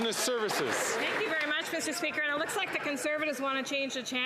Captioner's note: some Applause